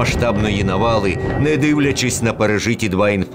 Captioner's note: air raid alert. Bombings